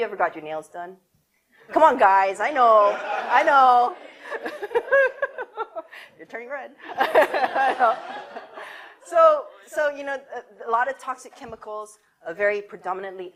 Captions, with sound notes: Haven't you ever got your nails done? Come on guys, I know. (audience laughter) You're turning red (laughs) A lot of toxic chemicals, are very predominantly